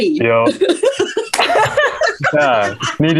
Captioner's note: risas